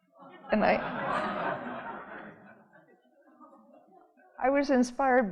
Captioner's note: audience laughing